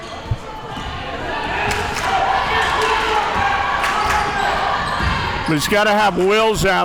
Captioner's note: audience yelling and cheering